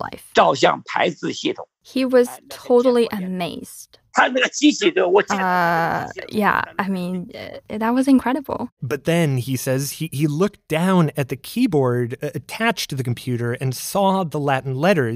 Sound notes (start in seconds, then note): 0.8 speaking Mandarin